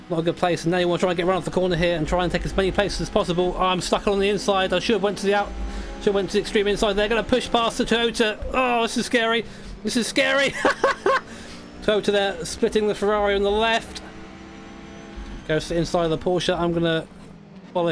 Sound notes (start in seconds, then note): 9.5 laughs